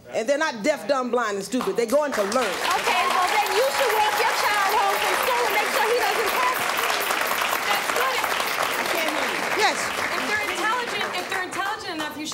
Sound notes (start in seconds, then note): 2.4 audience laughing; 7.0 audience clapping